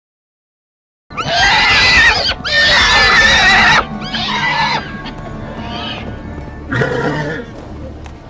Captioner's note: horse screaming